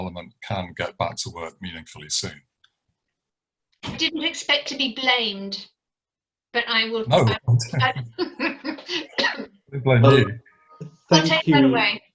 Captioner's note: laughs